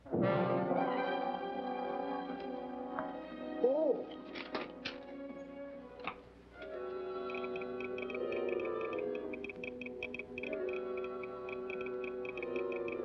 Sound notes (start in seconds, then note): 0.2 dramatic tone; 4.4 paper rustling; 7.2 telegraph machine tapping